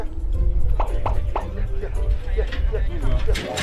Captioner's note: A gentle tap